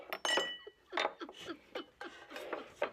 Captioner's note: anne chuckling